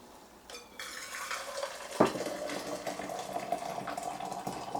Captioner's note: water pouring